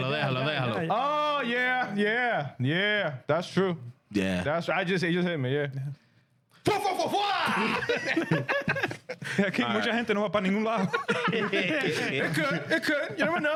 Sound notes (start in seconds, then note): 5.9 laughter; 5.9 speaking In Japanese